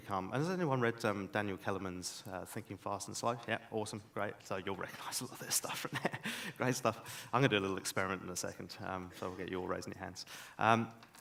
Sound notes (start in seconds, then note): 6.1 laughs